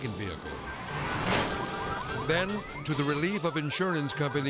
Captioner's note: alarm beeping